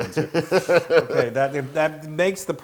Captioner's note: laugh